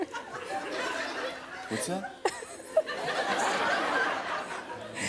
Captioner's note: laughter